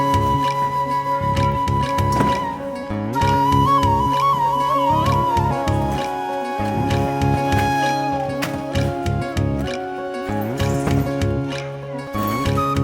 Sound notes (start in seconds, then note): 6.6 objects clattering